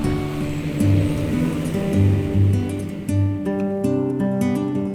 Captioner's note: drone whirring